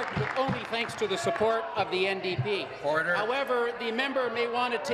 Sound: applause

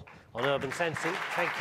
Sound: audience clapping

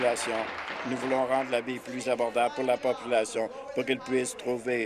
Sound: applause

